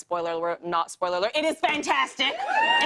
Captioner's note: cheers and applause